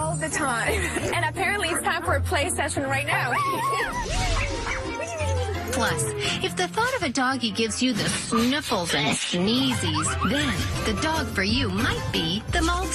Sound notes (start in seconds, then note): 3.1 laughs; 3.2 dogs howling; 4.3 dog barking